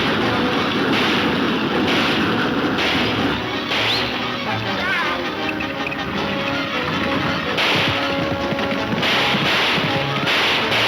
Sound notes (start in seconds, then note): 3.7 whistles; 5.9 gunshots banging